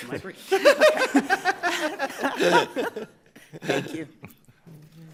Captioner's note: all laughing